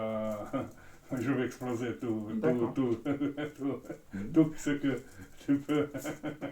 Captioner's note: laughs